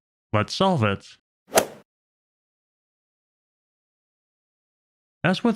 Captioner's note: golf ball hit sound effect